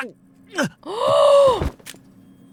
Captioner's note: gasps